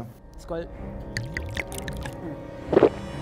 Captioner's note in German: Gluckern